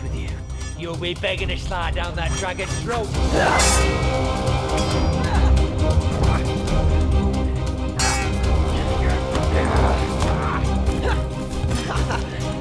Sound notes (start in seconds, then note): 3.4 sound of swords striking together; 4.4 dramatic music